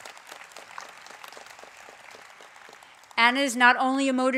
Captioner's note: applause